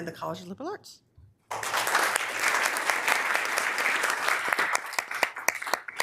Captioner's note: members applauding